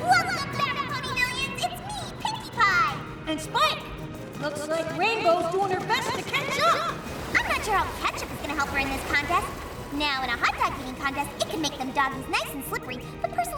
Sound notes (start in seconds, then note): none